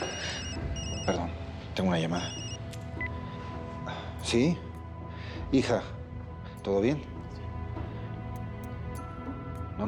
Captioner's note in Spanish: Suena teléfono